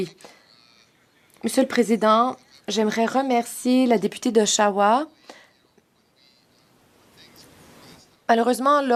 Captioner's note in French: voix de l'interprète